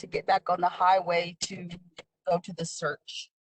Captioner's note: speaking in native language